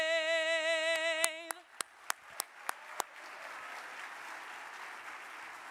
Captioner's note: audience applauding